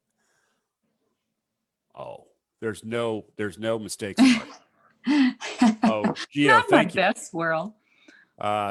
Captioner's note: chuckles